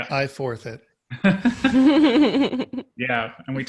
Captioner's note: all laughing